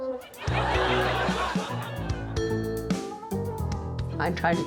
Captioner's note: audience laughs